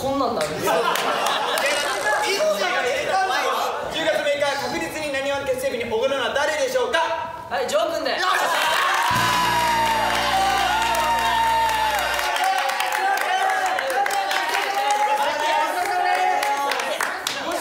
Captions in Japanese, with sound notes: みっちーが入れた一言でしょ？ 10月6日確実になにわ結成日に奢るのは 誰でしょうか？ 丈くんで！ よっしゃー！！ （拍手） （大騒ぎ） なにわ男子：丈くんごちそうさまでーす！ 待てや、待て